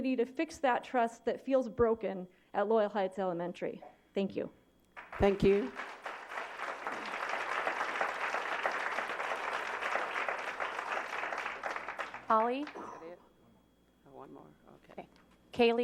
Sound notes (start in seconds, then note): 11.8 applause